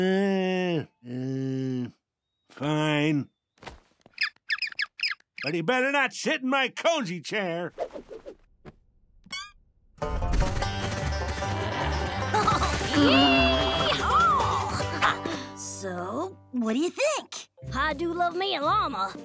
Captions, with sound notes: [groaning] Fine... [squawking] But he better not sit in my cozy chair. [laughing] Yee-haw! So, what do you think? I do love me a llama,